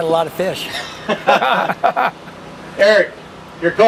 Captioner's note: laughter